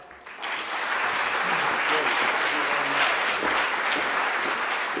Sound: audience applauds

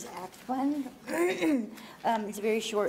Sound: clears throat

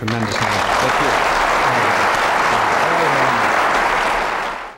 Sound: crowd applauding

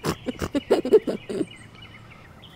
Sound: snort snort; giggles; birds chirping

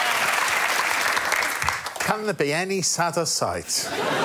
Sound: audience laughs

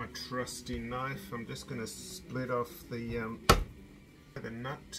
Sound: thud

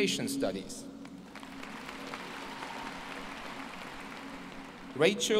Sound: applause

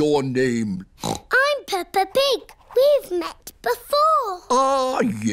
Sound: snorts

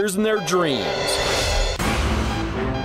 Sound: beeping; dramatic music

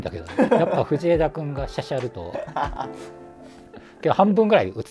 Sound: laughing

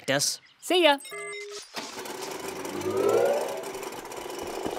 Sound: beeping and whirring

